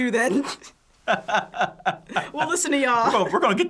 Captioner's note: both laugh